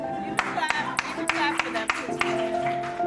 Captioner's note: applause